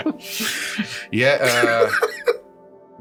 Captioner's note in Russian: Смех